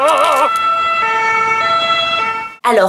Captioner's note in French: Son d'ambulance